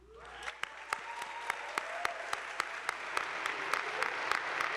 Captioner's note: attendees applauding